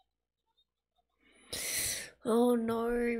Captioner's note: sharp inhale